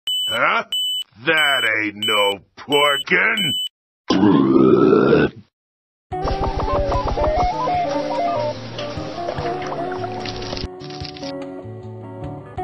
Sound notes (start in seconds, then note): 4.1 burps